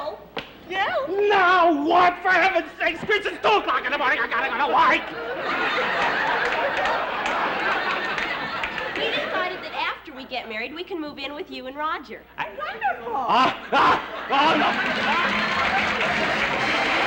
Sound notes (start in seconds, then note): 13.4 gasping; 14.3 applause